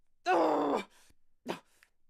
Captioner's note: groaning; clicking